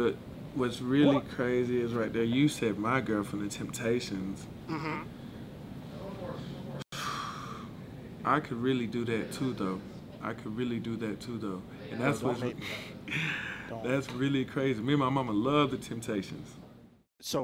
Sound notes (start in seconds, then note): 6.9 sighing